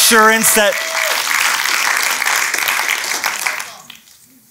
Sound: applause

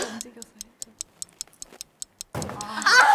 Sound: whispering

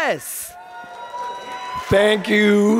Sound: audience cheering

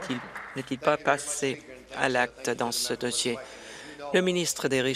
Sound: applause

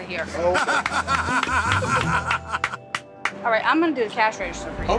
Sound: laughs

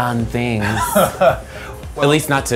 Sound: laughs

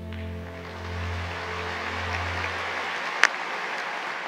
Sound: audience applauding

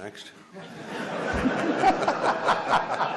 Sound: laughs

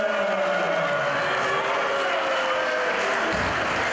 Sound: applause

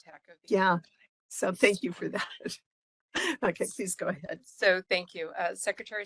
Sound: laugh

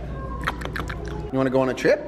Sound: licking sounds

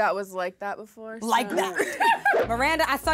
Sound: laughs

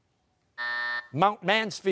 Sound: buzzer

